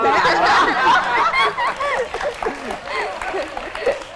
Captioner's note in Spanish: risa